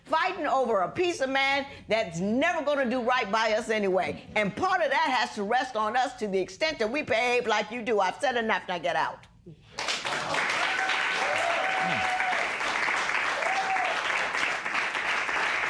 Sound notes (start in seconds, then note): 9.9 cheers and applause